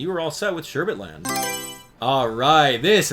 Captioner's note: Mario Selection Sound